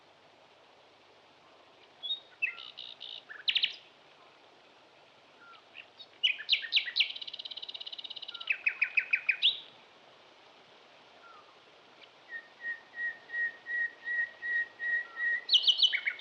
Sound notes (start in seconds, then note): 6.0 chirping continues; 12.1 chirping continues